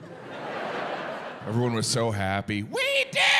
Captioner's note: audience laughing